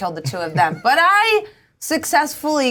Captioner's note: Bobby laughing